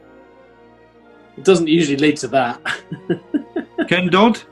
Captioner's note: chuckling